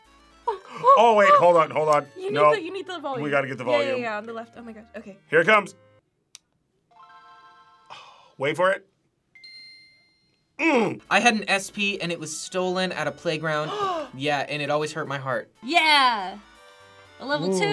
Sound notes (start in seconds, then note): 6.8 game chimes; 9.4 bell rings; 13.6 gasps